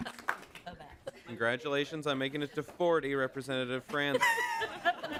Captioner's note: applause